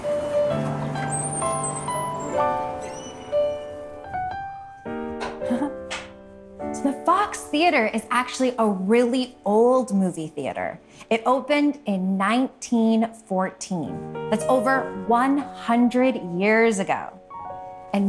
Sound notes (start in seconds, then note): 0.2 light music continues; 5.4 laughing